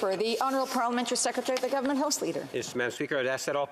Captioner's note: speaking French